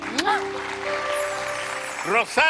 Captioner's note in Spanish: aplausos